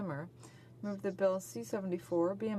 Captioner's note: speaking French